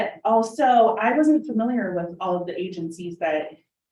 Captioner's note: none